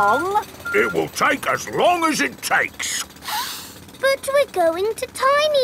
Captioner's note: sniffs